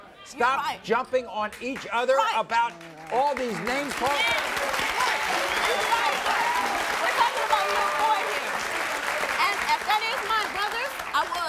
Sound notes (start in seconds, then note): 3.3 cheering